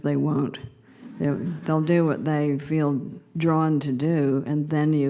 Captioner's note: laughter